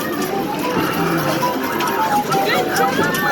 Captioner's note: machine chiming